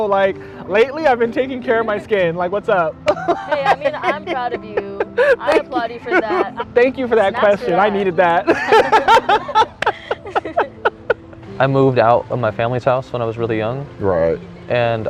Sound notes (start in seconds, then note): 3.0 laughs; 8.4 both laughing